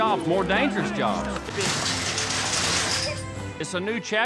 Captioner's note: clattering sounds